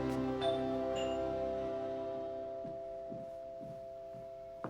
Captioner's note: doorbell rings